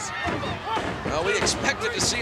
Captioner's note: head thudding